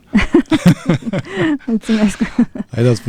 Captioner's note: laughter